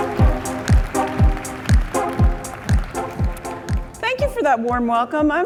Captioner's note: applause